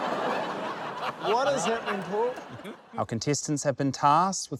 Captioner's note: laughs